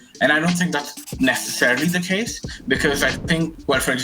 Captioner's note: marker scribbling